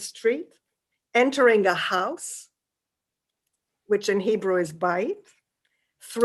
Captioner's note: hebrew